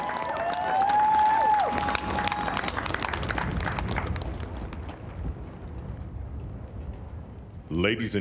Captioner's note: applause